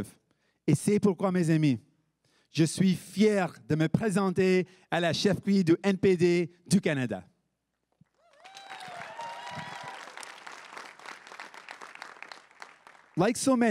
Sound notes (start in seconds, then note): 8.1 everyone cheering and applauding